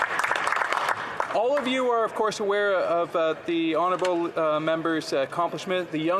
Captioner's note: some Applause